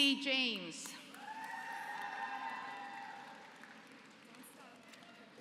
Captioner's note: applause